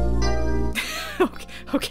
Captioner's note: chuckles